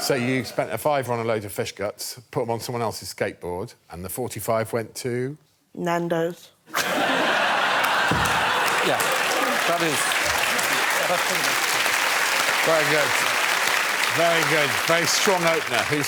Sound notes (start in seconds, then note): 6.7 laughter; 8.4 applause